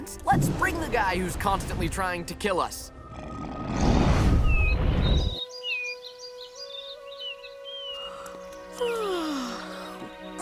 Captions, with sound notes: Let's bring the guy who's constantly trying to kill us. [chirping] [yawning]